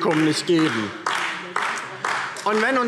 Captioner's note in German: Beifall DIE LINKE